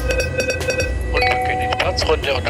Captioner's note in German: Signaltöne